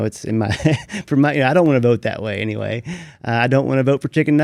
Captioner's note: laughs